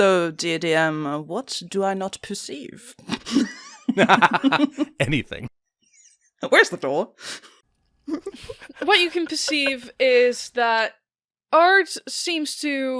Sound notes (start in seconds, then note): 3.9 laughing; 8.1 laughing